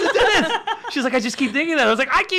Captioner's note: laughs